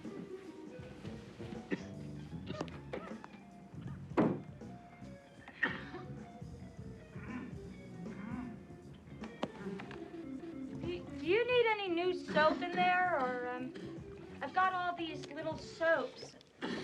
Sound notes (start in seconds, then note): 1.6 coughing; 4.2 door shuts; 16.6 chris coughing